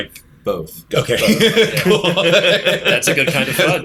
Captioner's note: laughter